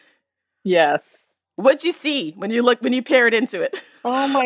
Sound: laughs

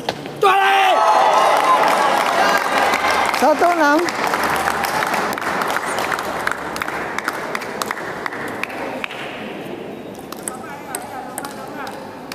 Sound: applause

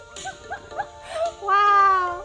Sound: laughing

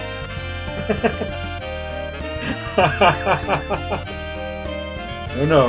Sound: laughs

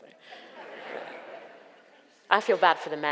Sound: audience laughs

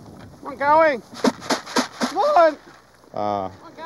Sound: man yelling

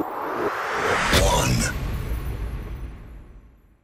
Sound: voiceover

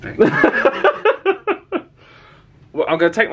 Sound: laughs

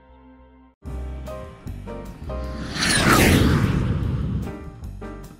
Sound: jet flyby

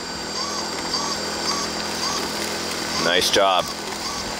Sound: machine engine roaring

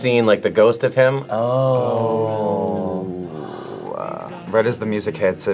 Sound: gasps

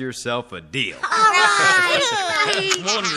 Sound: cheering

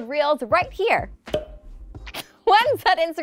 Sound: bubble pops

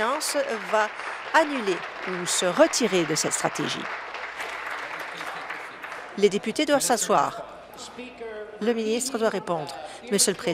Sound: applause

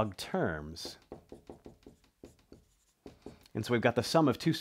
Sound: marker tapping board

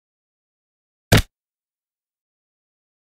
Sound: sound of blow

